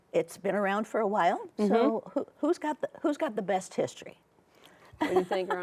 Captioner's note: laughs